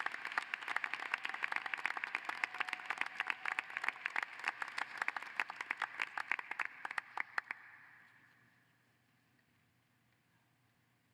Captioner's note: applause